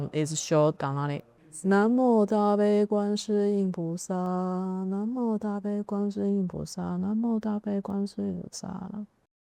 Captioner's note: reciting in Chinese